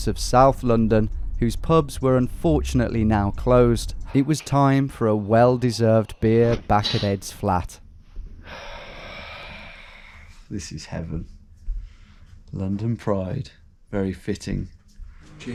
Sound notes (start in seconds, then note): 8.4 exhaling heavily